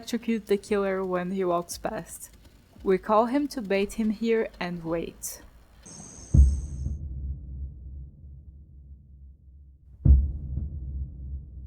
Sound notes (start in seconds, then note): 5.8 crickets; 9.8 tense Music